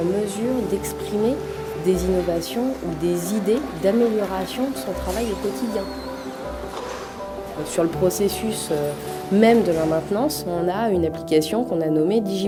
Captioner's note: speaking foreign language